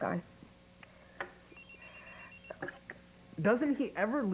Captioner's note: pager beeps